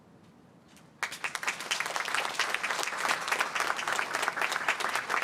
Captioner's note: applause